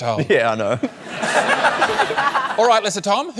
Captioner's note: laughter